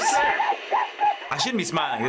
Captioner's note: customer shrieking